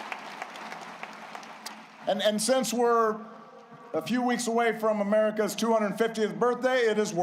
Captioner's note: applause